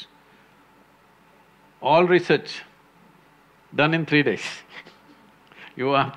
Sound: laughs

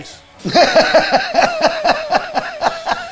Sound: laughing

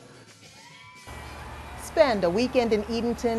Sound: crowd cheers

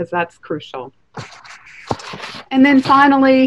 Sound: paper rustling

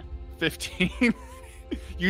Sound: laughs

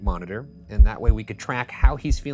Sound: heartbeats thumping

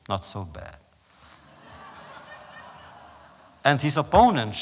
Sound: laughter

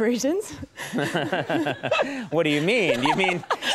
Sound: laughter

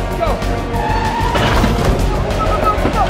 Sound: car crashing

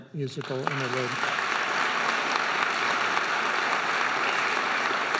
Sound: audience applauding

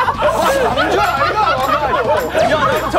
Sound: rolling on the floor laughing

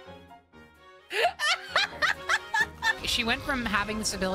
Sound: laughter

